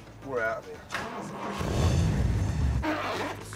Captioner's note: engine revs